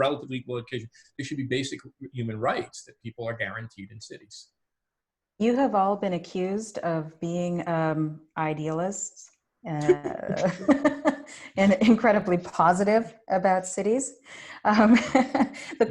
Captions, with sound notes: relatively equal education they should be basic human rights that people are guaranteed in cities. - You have all been accused of being idealists (laughs) and incredibly positive about cities (chuckles)